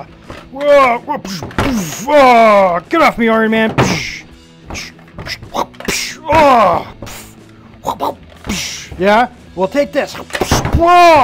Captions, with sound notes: (making fight noises) Get off me, Iron Man. Yeah, well take this.